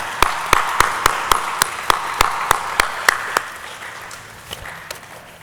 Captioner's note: audience cheering and applauding